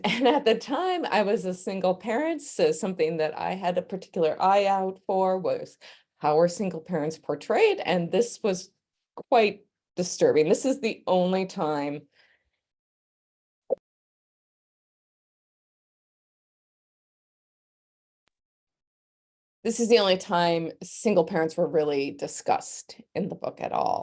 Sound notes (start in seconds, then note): 11.1 mic muted